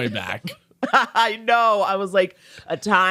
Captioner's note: laughing